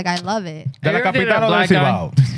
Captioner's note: speaking Spanish